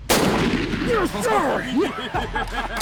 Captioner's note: gunshot fires; laughs